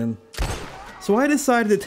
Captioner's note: gunshot